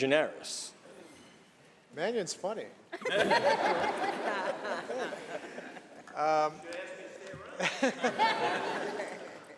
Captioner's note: laughter